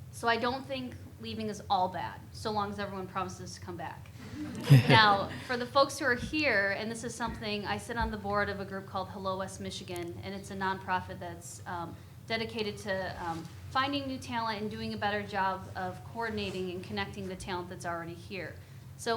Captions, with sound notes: So I don't think leaving is all bad... so long as everyone promises to come back. (audience laughing) Now for the folks who are here-- and this is something-- I sit on the board of a group called "Hello West Michigan," and it's a nonprofit that's dedicated to finding new talent and doing a better job of coordinating and connecting the talent that's already here.